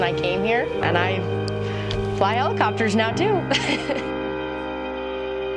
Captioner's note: laughs